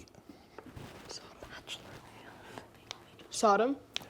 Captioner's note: whispering